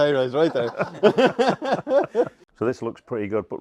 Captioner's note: laughter off camera